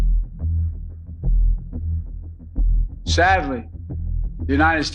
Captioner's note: soundbite of archived recording